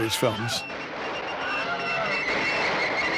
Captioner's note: man screaming